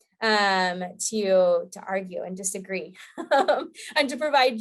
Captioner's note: laughing